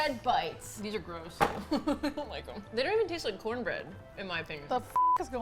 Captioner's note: laughing